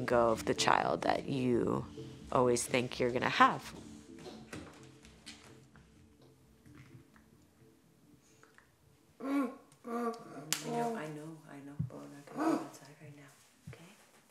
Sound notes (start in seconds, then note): 8.7 hand patting; 9.8 grunting